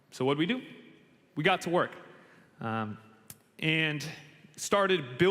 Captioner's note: none